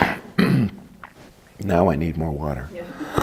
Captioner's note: coughing